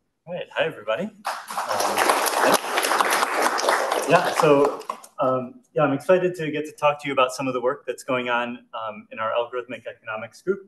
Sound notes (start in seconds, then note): 1.2 audience clapping